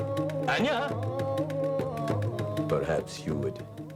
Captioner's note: shouting